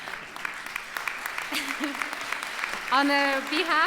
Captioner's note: applause